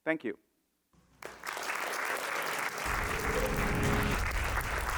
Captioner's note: audience applauding